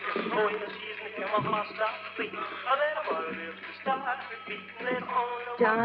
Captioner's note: song on radio - rockabilly; footsteps on the pier